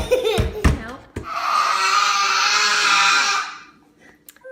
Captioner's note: forceful throat screaming